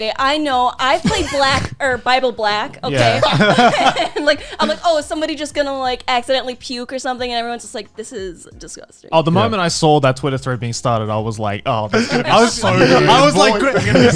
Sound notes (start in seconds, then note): 2.8 laughing